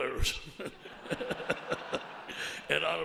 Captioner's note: audience laughs